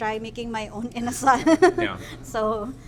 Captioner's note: laughs